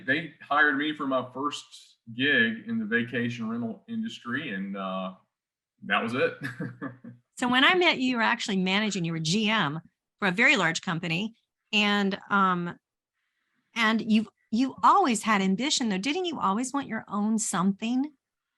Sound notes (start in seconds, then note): 6.1 chuckles